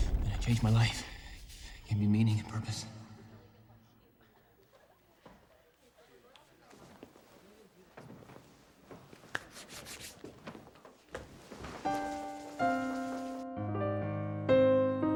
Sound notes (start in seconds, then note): 6.2 students murmuring; 9.0 hands brushing; 11.8 gentle piano music